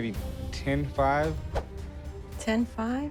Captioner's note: swoosh